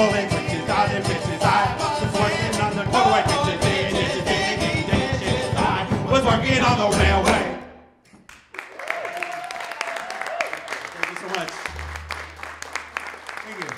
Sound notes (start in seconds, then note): 8.3 audience cheering and applauding